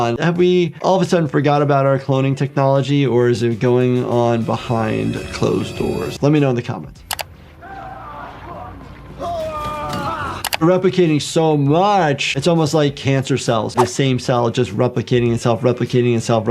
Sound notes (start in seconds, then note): 4.4 eerie music; 7.0 screen clicking; 7.9 characters shouting